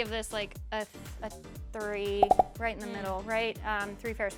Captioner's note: popping